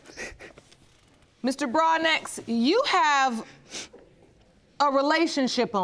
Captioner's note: sobbing